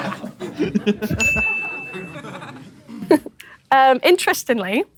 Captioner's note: people in room laughing; bright bell ring